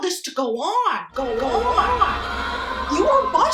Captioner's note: C: sensual gasping